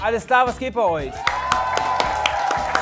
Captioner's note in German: Jubel, Applaus